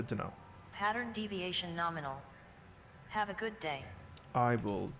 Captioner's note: Hab Voice